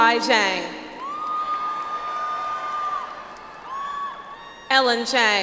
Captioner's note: audience applauds